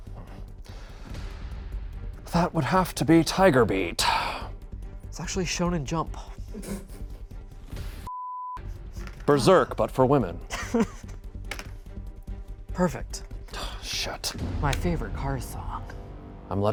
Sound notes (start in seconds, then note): 0.2 gentle tense music; 6.6 crew laughs; 8.0 beep; 10.4 laughs